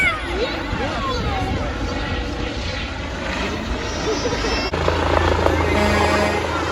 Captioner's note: helicopter buzzing